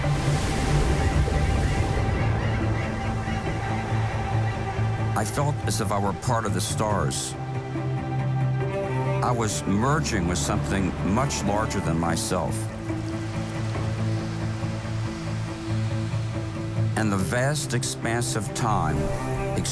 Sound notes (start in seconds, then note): 0.1 waves crash; 0.8 birds chirping; 7.8 uplifting music; 13.0 rain pattering; 15.0 uplifting music